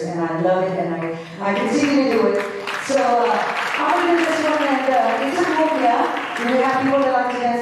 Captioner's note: applause